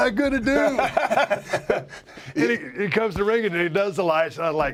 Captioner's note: laugh